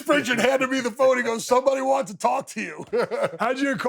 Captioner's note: laughs